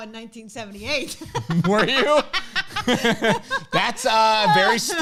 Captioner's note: both laughing